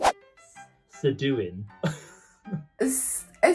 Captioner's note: laughs